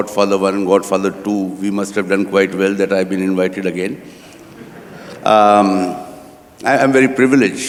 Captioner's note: laughter